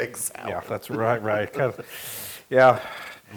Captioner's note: laugh